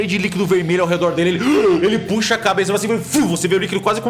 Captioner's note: deep breath